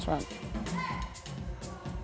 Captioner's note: upbeat music; instructor shouting; upbeat music